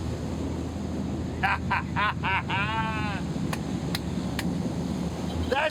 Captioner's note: Buddy laughing and clapping